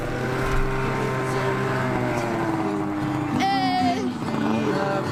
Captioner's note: snowmobile engine revving